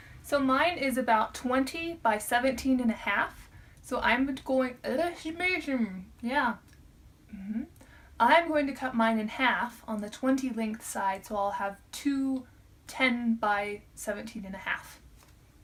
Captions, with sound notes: So mine is about 20 by 17 and a half. So I’m going to [stumbles over words] Yeah, mmhmm. I am going to cut mine in half on the 20 length side so I’ll have 2 ten by 17 and a half.